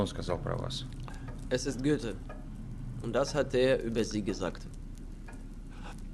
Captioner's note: speaking German